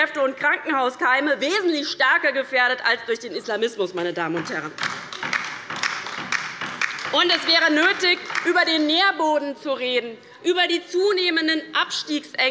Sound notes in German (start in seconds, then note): 4.7 Beifall bei der LINKEN